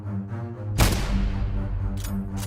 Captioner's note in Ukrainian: постріл